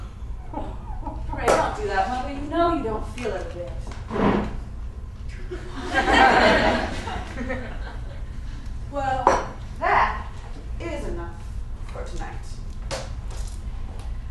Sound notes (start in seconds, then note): 5.4 audience laughter